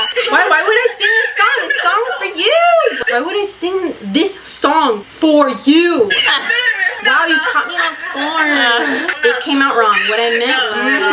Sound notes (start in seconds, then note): 5.7 laughs; 7.0 whiny voice